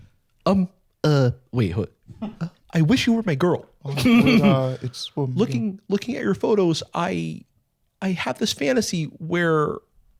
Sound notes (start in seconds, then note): 4.5 mumbling